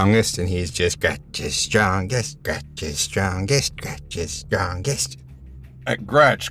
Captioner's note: chants